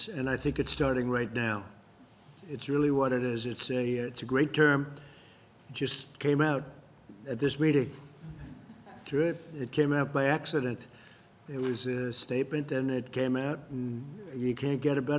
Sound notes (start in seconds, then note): 8.3 laughter